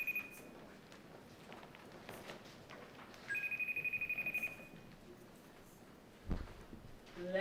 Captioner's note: cell phone ringing